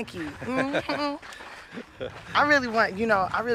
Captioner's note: laughter